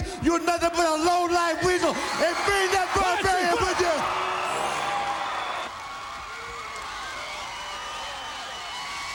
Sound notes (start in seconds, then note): 5.9 crowd cheering; 7.9 crowd chatter